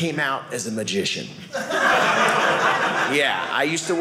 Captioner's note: audience laughing